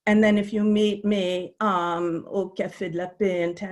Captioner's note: Arabic language